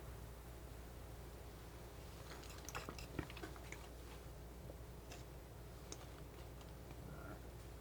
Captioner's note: scratching